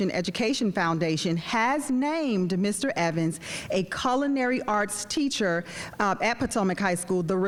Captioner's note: none